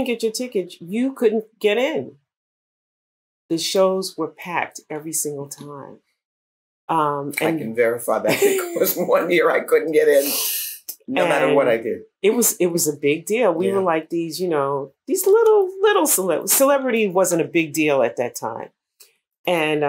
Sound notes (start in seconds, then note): 8.2 laughter